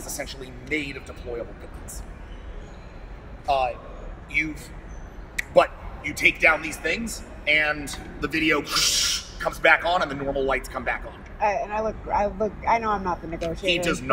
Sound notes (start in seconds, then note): 4.5 snap; 8.8 static